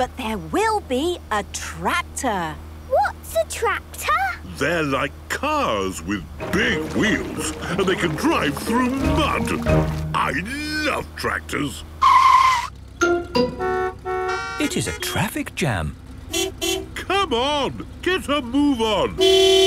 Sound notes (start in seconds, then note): 12.2 tires screeching, horns honking; 16.4 honking